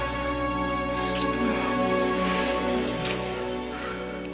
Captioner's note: passionate kissing